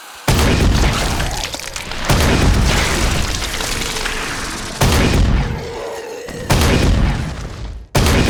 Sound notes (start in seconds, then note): 0.6 demons squelching; 0.6 rocket launcher booming